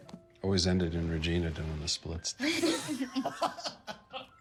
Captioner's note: lauaughing